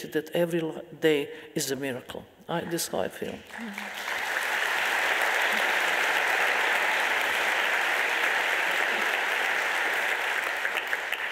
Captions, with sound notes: that every day is a miracle. This is how I feel. (audience applauding)